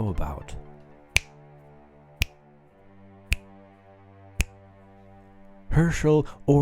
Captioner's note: imitates jazz beat with fingers